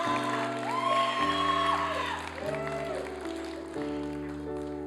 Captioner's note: applause and cheering